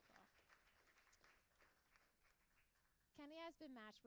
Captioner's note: applauding